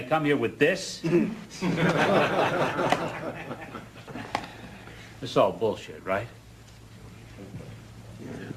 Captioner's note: laugh